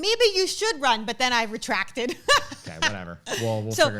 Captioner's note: laughs